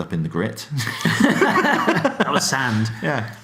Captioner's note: laughing